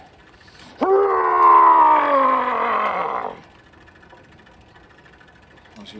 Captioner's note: growling